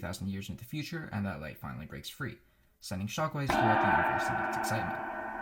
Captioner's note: gong